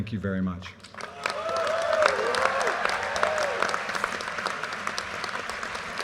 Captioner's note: audience applauding